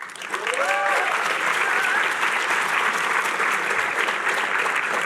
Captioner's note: cheering